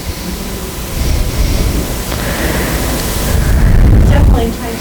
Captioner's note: student mumbling